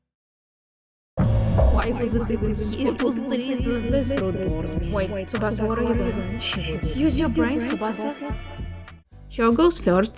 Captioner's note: echoing narration